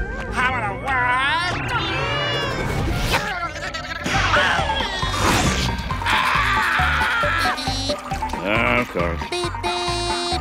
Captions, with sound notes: How in the what? [screaming] [screaming] -Beep beep! -Of course. Beep beep!